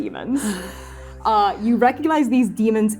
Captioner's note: tired sighing